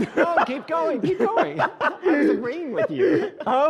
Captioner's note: laughing